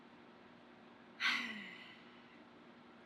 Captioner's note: sighs